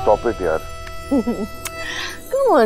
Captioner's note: Giggling